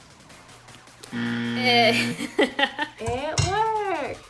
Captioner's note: buzzer; laughs